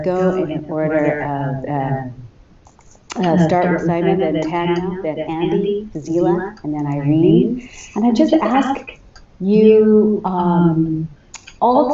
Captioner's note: audio echo